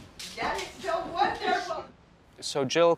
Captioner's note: clapping; laughing